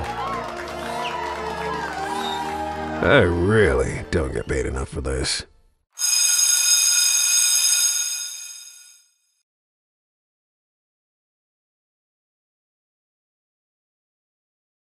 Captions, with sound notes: [Applause] I really don't get paid enough for this. [school bell rings]